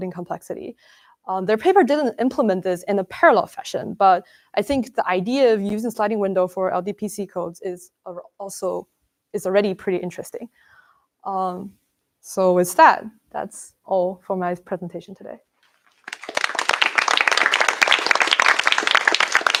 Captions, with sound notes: complexity. Their paper didn't implement this in a parallel fashion but I think the idea of using sliding window for LDPC codes is already pretty interesting. So, with that, that's all for my presentation today. [APPLAUSE]